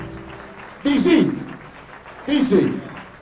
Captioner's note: applause; blues music ends; applause